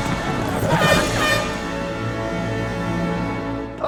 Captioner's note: air horn blows